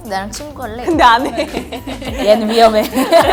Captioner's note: laughs